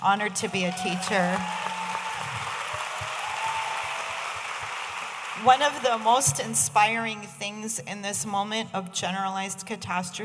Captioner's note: audience applauding